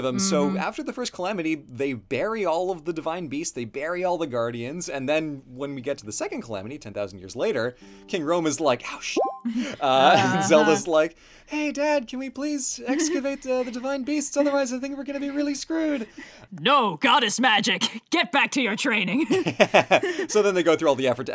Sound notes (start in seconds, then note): 9.0 laughs; 19.1 laughs